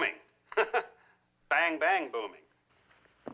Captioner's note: chuckling